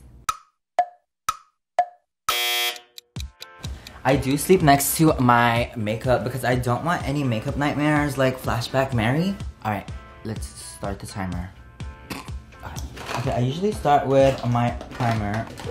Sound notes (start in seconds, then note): 0.3 clock ticking; 2.2 buzzer; 3.2 upbeat music